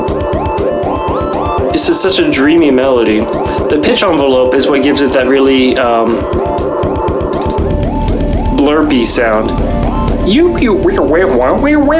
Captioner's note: mouth blerps